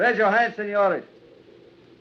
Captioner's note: speaking spanish